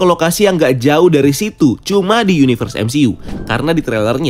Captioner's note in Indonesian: suara transisi